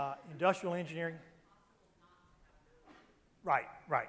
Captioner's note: female murmur